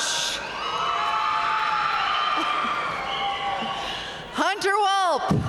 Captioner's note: audience cheering and applauding